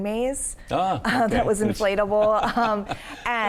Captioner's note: laughs